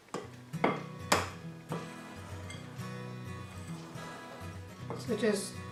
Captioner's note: spoon hitting glass bowl